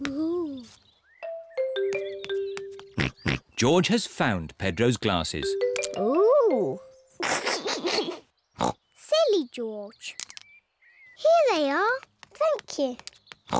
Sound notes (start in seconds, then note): 3.1 snorts; 7.2 laughs; 8.7 snorts